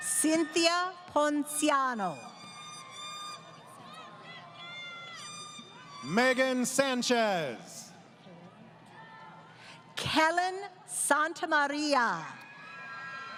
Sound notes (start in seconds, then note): 2.6 crowd Cheering